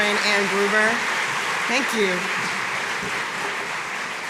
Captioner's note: audience applauding